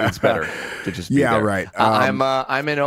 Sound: laughs

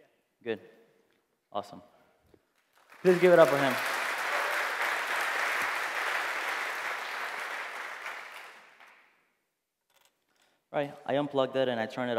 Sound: applause

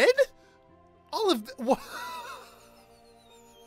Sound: laughing in disbelief

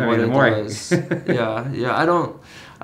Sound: chuckling

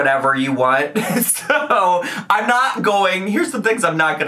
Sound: laughs

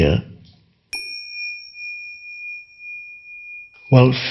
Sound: ding

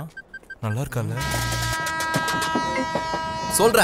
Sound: phone rings

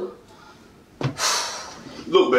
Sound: sigh

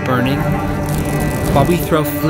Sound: fire crackles

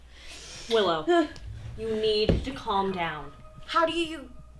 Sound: faster heartbeat

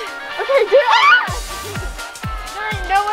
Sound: screams

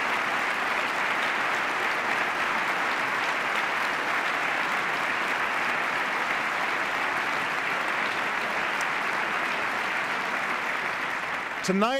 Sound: applause

